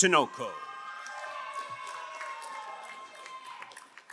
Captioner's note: crowd applauding